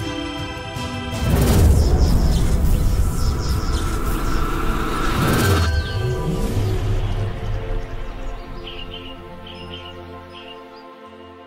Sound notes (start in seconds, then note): 1.3 electricity buzzing; 8.7 birds chirping